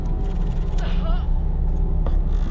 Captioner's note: gasping